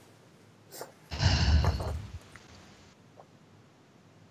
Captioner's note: deep exhalation